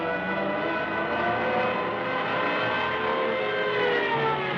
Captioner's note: police sirens blaring